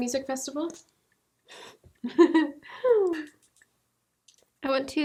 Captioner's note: laughing